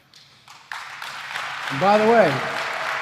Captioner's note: applause